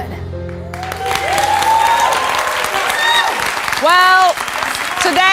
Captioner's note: audience applauds